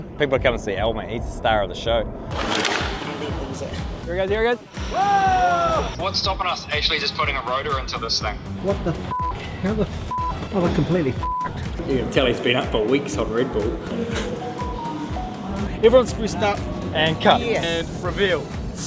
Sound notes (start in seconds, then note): 2.6 faintly speaking; 9.5 beeps; 11.5 beeps